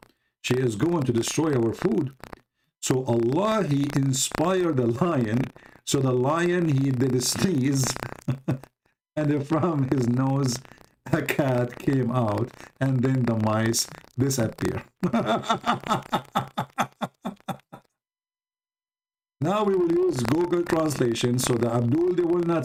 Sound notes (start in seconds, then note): 15.0 Ketawa